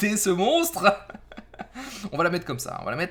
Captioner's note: laught